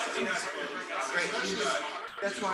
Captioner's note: people chattering indistinctly